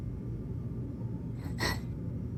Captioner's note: Díbell subtle agitated breath